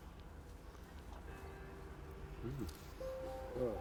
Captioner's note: church bell chimes